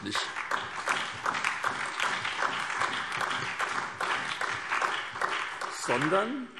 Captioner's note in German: Beifall SPD, BÜNDNIS 90/DIE GRÜNEN und DIE LINKE